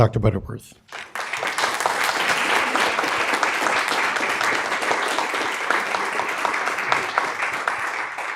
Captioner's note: applause